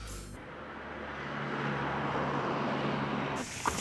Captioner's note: traffic humming